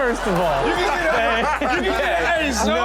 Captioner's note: audience and guest laugh